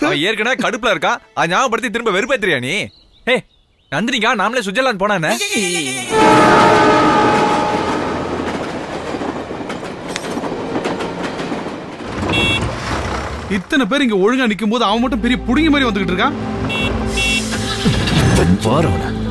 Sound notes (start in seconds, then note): 6.1 train horn blares; 12.2 horn blares; 15.3 horn blares